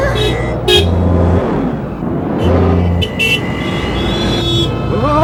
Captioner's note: traffic sounds, horns